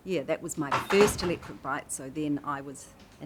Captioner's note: clatters